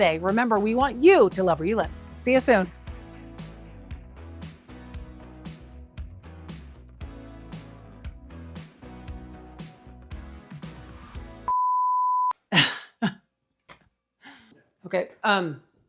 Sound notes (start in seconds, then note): 3.1 bright upbeat music; 11.5 screen beeps; 12.5 laughs